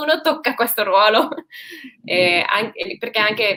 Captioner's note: laughs